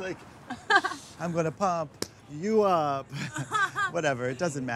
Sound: laughs

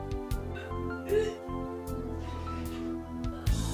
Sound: retching

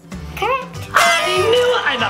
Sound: horn toots

